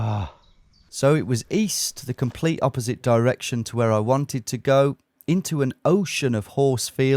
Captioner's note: none